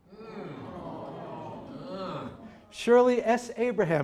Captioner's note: audience exclaiming